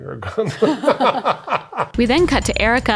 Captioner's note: laugh